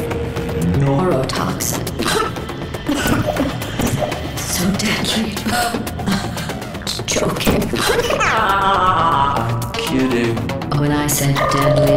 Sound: cough; coughs

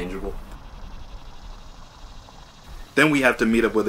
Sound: insects chirping

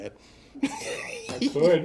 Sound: laughing

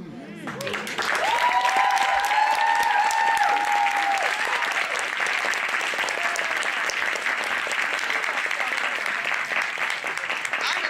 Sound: applause

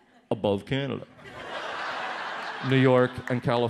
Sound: audience laughs

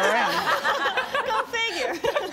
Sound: people laugh

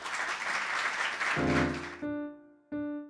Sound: audience clapping; upbeat music

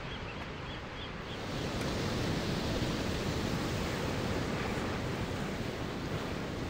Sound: waves crashing on rocks Seabirds squawking; loud rumble of waves on rocks; wave crashes on rocks Water splats nearby

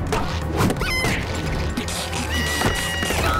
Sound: squeaking; screaming

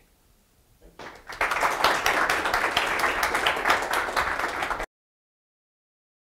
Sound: applause

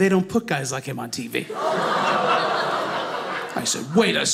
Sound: audience laughing

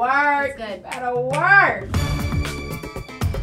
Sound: fingers snapping; upbeat music

